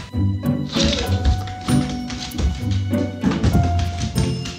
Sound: hurls voice

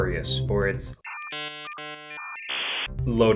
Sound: the horrible noise that a dial up modem makes

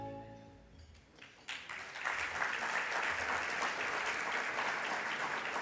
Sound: audience applauding

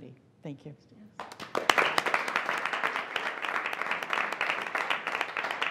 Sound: audience applauding

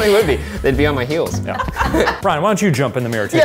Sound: laughing

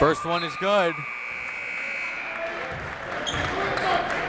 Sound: buzzer

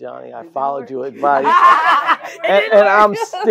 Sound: laugh

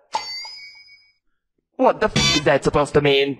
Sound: taunt SFX

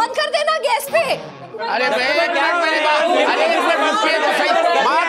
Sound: shouting

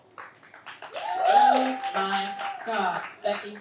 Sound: audience applauds and cheers

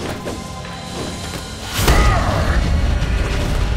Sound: grunting

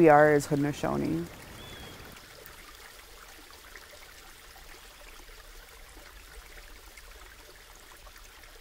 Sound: sound of running water

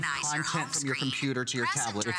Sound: electronic voice

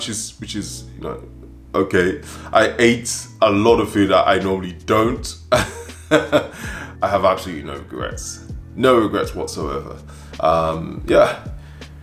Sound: laughs

